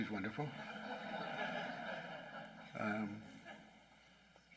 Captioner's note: laughing